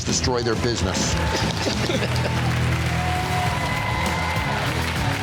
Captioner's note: crowd applauding